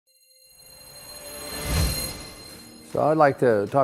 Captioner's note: digital sounds